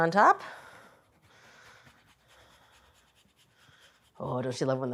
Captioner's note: grater scraping